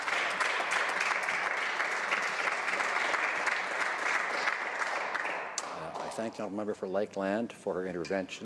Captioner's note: some Applause